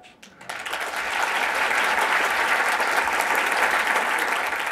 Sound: applause

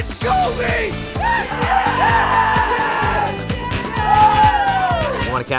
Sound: screaming

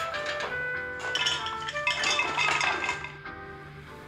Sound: clattering

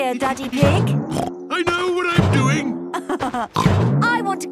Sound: snorts; laughs

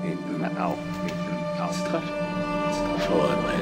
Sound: King Brandolf, echoing; Fordwin, echoing; King Brandolf, echoing

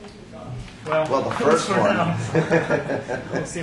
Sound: laughs

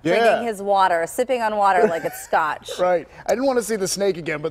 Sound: laughter

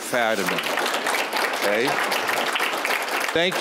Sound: applause

